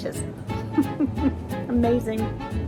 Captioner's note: laughing